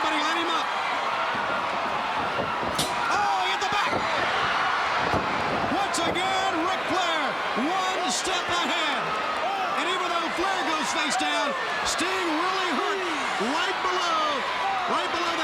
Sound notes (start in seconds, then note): 1.5 crowd cheering; 2.7 Ric thudding into turnbuckle; 5.2 Ric thudding on ring